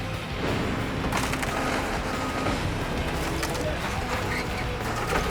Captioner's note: crushing sounds